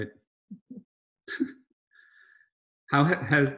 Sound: both laughing

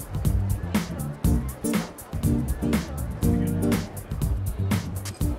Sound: crowd chattering

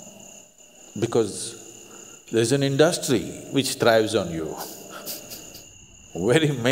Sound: laughs

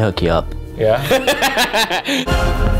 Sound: laughs loudly

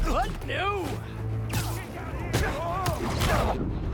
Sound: none

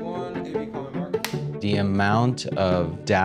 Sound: slate board clapping

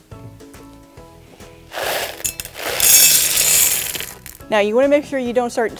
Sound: candy rattles

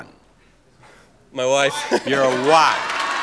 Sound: laughs

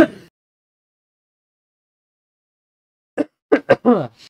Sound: coughing

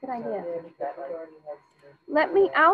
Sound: student speaking faintly

